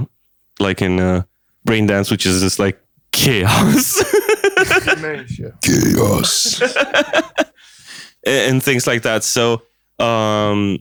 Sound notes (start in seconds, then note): 5.6 laughs; 5.7 cookie monster voice